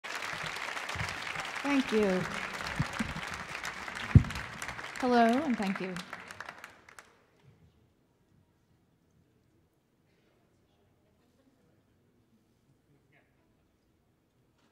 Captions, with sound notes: (audience applauding) - Thank you. Hello and thank you.